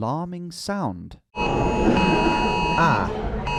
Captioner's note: alarm beeping